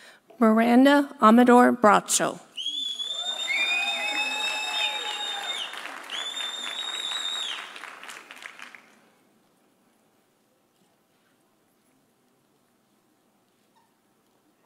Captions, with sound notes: Miranda Amador Bracho. (audience cheering) (audience applauding)